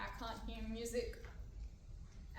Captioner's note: none